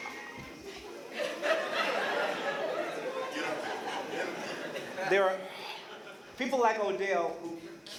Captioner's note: laughter